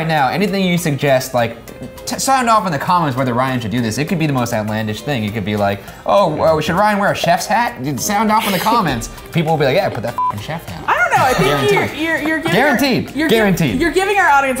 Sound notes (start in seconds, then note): 11.5 wheezing